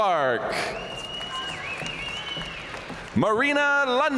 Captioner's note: audience cheering and applauding